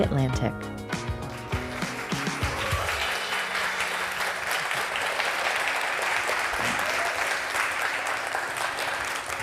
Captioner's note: applause